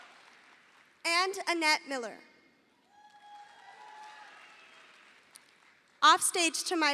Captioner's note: audience applauding